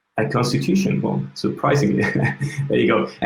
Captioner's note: laughs